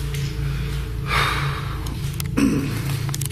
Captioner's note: sighs